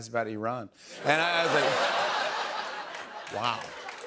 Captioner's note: laughter